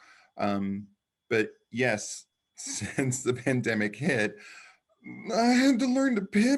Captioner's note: chuckles